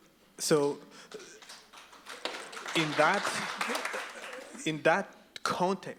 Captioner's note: audience claps